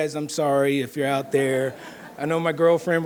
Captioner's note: audience laughing